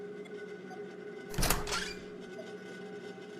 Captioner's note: door opens